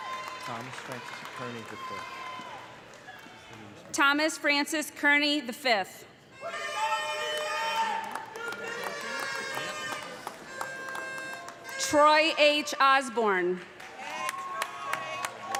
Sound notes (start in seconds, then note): 0.0 cheers and applause; 6.4 loud shouting